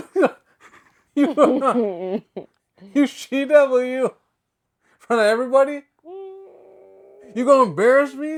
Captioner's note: mumbles